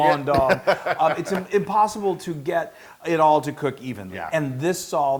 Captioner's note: laugh